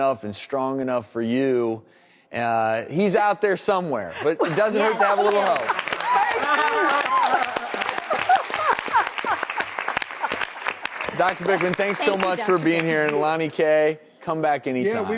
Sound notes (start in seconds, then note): 6.0 laughs; 8.3 audience claps